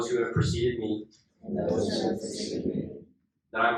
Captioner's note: inductees repeat